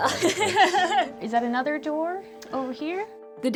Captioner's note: laughs